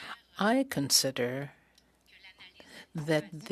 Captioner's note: speaking French